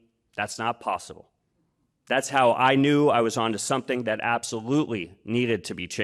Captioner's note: none